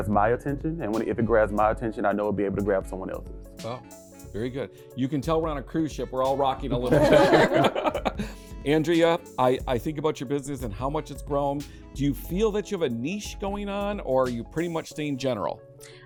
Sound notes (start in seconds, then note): 6.8 laughter